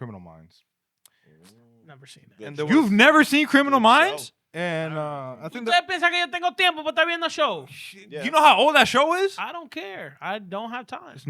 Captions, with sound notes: Criminal Minds. Never seen that. You've never seen Criminal Minds? And I think that-- (Speaking In Foreign Language) You know how old that show is? I don't care. I don't have time.